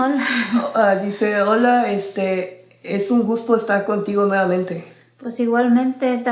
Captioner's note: speaking in foreign language